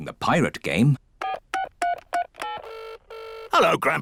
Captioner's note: line ringing; dialing phone